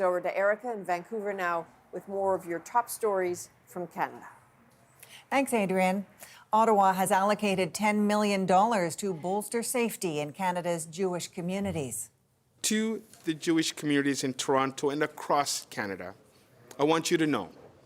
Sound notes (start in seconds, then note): none